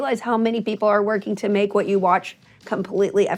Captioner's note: none